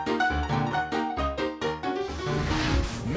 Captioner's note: upbeat music; flames crackling